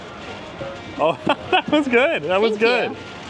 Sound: laughs

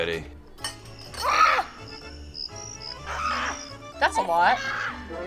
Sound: woman screams

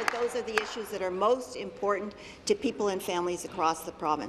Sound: some applause

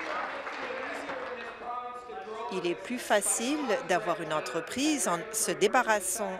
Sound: applause

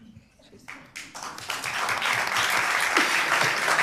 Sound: applause

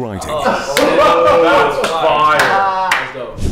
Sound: group groans and laughs

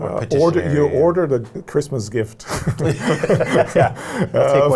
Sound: laughter

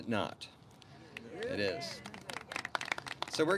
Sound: clapping

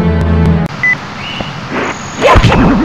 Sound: beeping noise

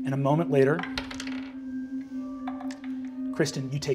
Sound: dice rolling

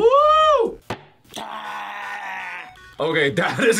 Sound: man growls

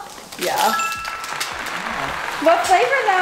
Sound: correct bell rings; crowd clapping

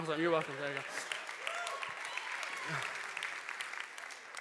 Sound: applause

